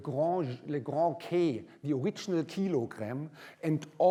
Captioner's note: german